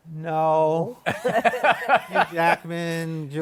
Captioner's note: laughter